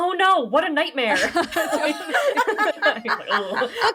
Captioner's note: laughing